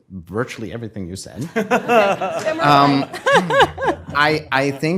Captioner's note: laughter